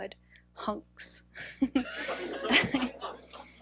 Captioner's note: laughing